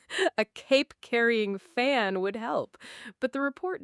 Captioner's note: chuckles